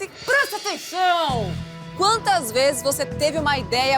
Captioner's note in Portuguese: em voz alta